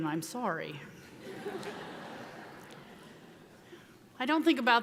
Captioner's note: audience laughing